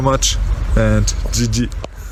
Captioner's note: foreign language